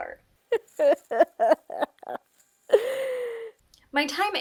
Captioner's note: sobbing into fabric